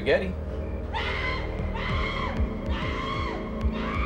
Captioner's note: woman screaming